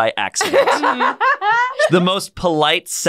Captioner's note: laughs